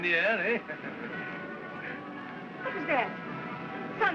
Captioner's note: chuckles